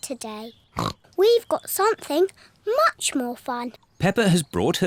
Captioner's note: snorts